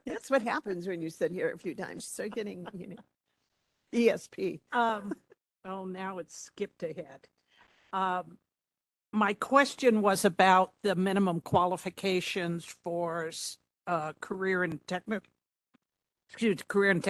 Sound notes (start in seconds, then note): 1.9 laughing